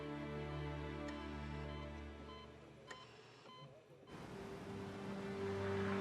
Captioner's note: monitor beeping